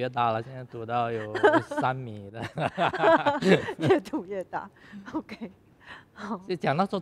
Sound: laughs

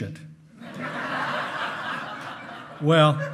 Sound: hearty laughing

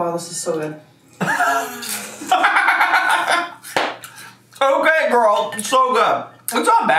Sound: laughs

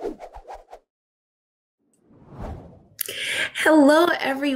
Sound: air whooshing

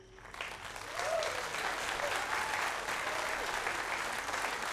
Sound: audience applauding

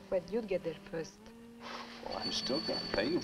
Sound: phone ringing

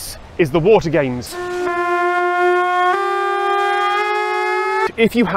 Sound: blaring Sirens

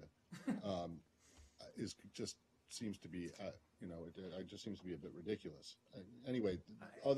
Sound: laughter

